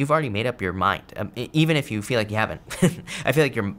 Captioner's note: laughs